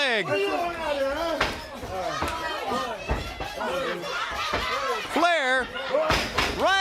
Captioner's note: crowd cheering